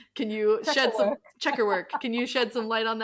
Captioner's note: laughing